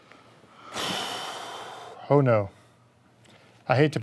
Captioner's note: sighs